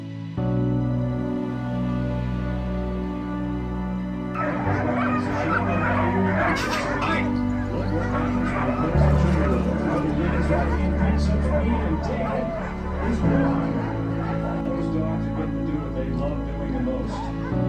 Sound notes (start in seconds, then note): 4.3 dogs barking, background commentary, Music